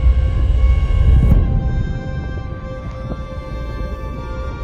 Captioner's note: violence screeching